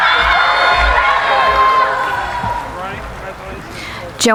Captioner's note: cheering